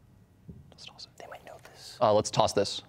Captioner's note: whispering